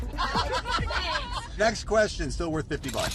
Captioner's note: chatter & laughing